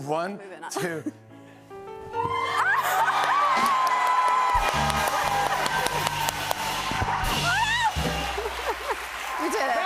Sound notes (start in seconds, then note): 2.2 cheers and applause